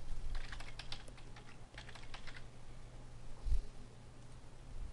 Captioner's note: typing